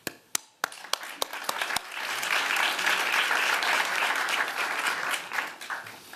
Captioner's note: applause